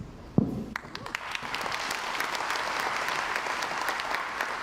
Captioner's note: crowd applauds